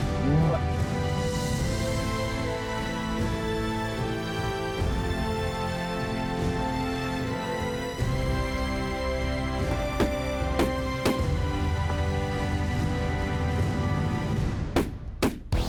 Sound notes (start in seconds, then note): 10.5 gun shots; 14.8 gun shots